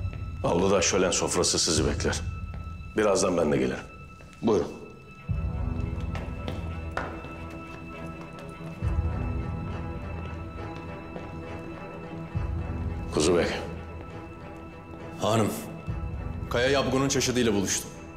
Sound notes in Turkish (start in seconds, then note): 5.3 Takırtı ve Adım Sesleri